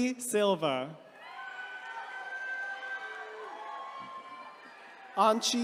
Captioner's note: attendees cheering